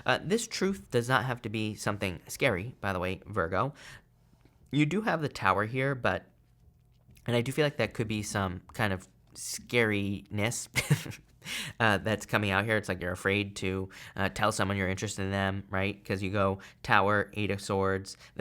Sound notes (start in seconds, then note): 10.7 chuckles